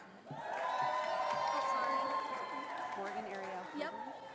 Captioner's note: audience applauding